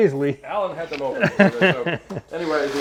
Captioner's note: cameraman laughs